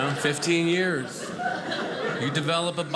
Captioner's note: audience laughing